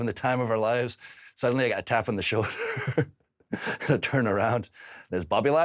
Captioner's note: chuckles